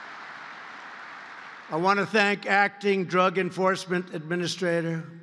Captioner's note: applause